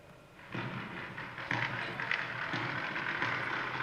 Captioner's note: gunshots